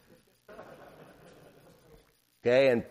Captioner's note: laughter